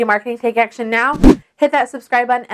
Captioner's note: whooshing sound